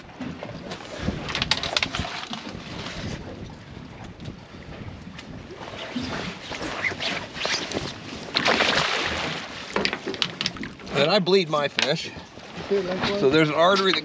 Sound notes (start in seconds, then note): 8.9 fish splashing